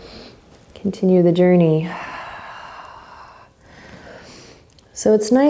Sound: exhaling strongly

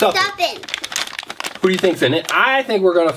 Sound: bag crinkles

